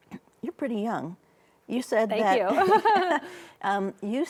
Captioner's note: laughs